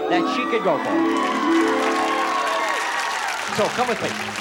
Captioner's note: audience applause